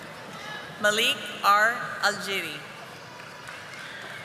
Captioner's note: audience applauding